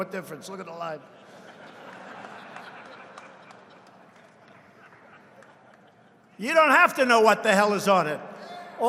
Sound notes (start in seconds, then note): 0.9 laughter